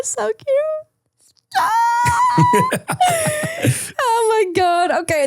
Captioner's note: person crying